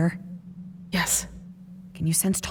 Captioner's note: whispering